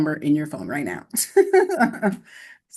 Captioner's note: laughter